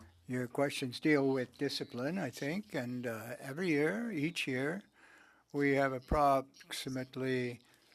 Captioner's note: speaking French